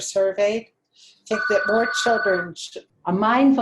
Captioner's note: phone rings